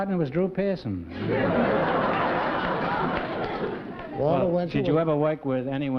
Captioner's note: laughter